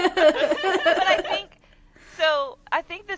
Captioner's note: laughter